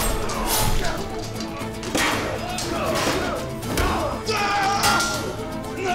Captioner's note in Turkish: Haykırma sesi; Kılıç sesleri